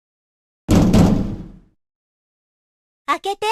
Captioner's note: pound, pound